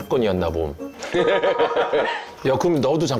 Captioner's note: forced laugh